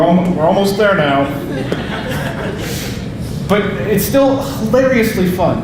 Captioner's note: audience laughing